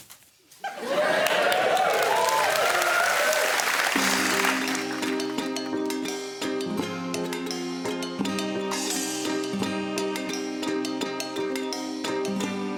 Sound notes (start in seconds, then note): 0.8 applause; 3.9 quirky music playing